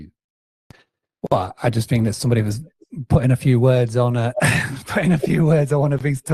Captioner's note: laughs